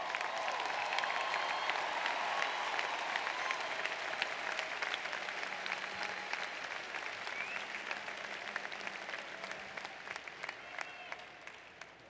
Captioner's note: applause